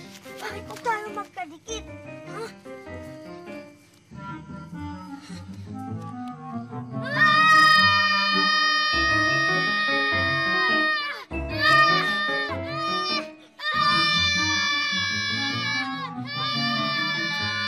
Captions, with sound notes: Why are we stuck to each other? Huh? [both shouting] [whimsical music playing]